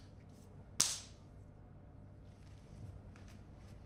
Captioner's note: claps